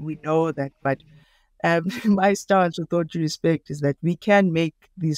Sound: chuckles

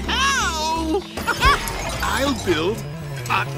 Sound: chuckles

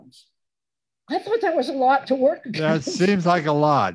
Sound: laughs

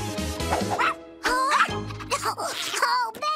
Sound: barks

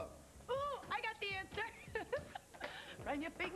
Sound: Tiffany giggles

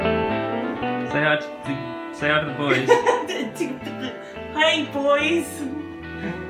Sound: laughs

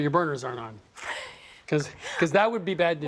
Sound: laughs

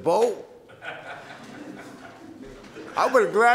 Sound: audience laughs

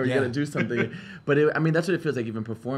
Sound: laughs

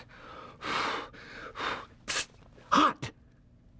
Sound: makes sizzle sound

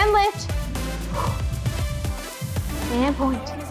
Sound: exhales

